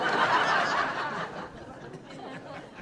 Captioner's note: laughing